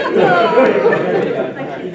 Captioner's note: laughter